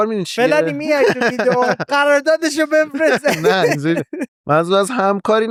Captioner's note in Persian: خنده